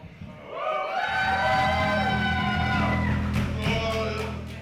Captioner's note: crowd cheering